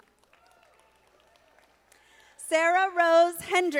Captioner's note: audience applauding